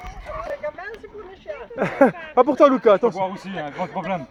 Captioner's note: laughs